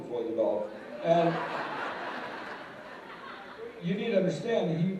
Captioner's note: laughter